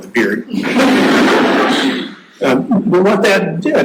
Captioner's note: audience laughing